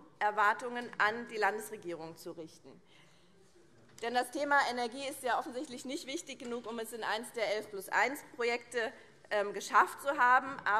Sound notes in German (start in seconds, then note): none